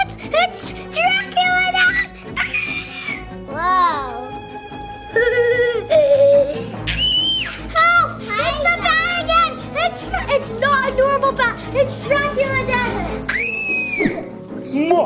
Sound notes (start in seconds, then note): 2.4 screams; 5.0 laughing; 6.8 screams; 8.2 bat squeaking; 13.3 screaming